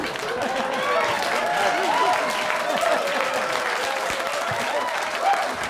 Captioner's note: audience laughing and applauding